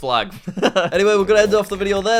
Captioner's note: laughs